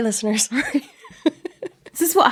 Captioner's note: laughing